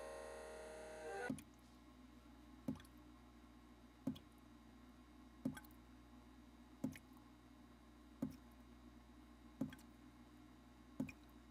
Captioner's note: steady dripping